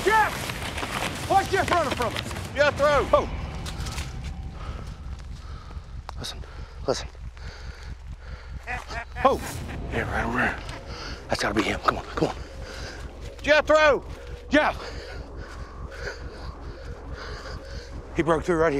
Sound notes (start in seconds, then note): 3.2 breathes heavily; 8.3 sinister laugh; 14.7 breathes heavily